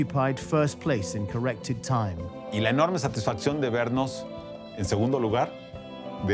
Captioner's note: in Spanish